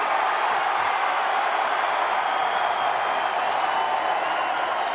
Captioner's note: crowd cheering